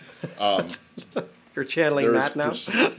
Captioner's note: laughter